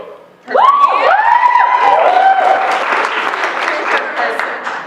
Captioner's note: cheering; applause